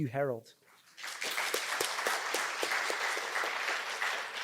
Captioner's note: applause